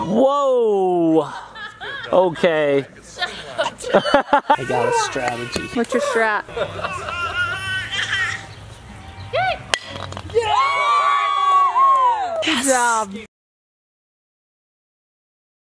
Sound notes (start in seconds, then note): 9.8 blocks clanking; 10.2 group cheering